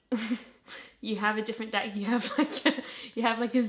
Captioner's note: laughing